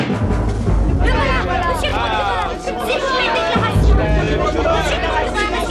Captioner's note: door slams; clamoring